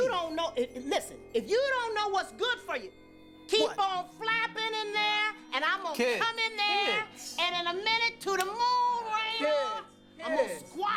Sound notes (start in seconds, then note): none